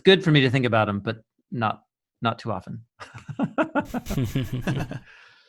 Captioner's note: laughing